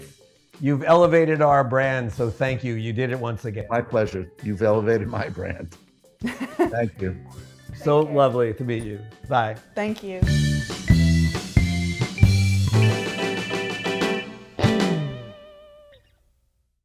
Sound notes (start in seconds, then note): 4.9 laughs; 10.5 upbeat music